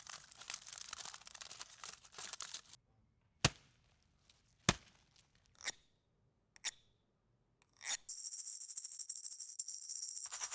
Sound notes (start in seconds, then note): 4.7 fist thudding; 5.8 guiro scraping; 8.1 maraca rattling